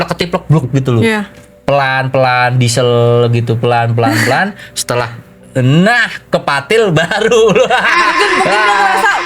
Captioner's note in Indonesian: tertawa